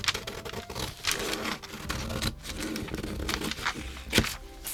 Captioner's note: scissors snipping